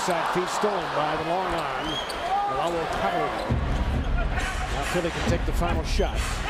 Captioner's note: crowd noise